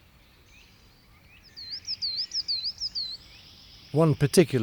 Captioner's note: birds twittering